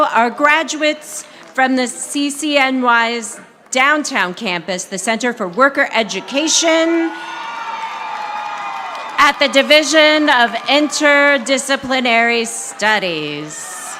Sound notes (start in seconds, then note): 7.1 audience applauding; 13.7 audience applauding